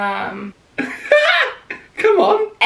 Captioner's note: laughs